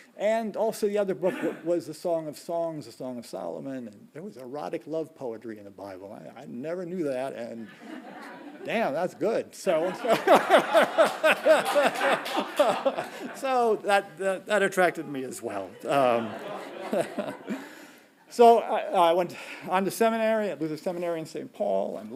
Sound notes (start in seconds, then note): 9.8 laughing; 12.0 audience laughing and clapping; 17.0 chuckling